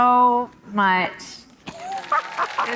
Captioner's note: audience applauding; Laverne laughing